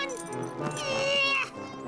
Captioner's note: grunts